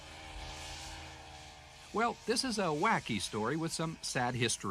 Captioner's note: snow mobile hums